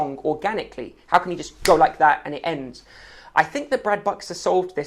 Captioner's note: fingers clicking